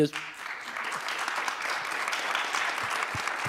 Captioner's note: applause